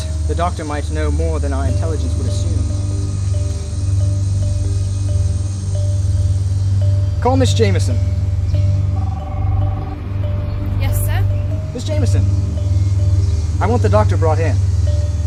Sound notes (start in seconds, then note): 8.9 phone rings